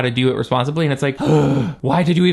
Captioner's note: sighs